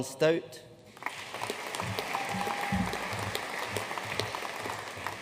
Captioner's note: audience applauding